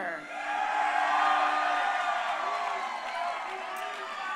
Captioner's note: crowd cheering